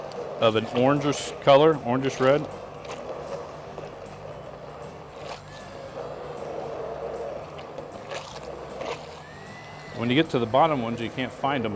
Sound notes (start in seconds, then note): 2.6 blender whirring; 5.0 sauce squelching